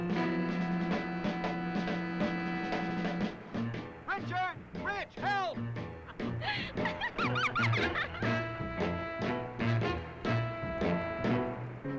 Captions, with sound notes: - Richard! Rich, help! (Jane giggling) (dramatic music)